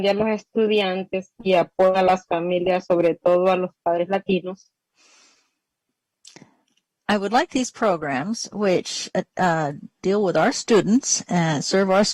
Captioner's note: speaking spanish